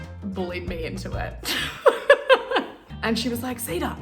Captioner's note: laughs